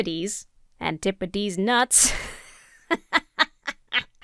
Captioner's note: laughs